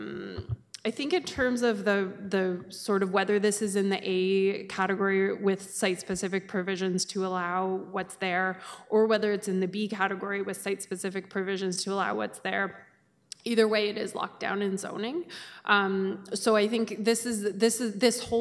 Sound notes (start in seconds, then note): none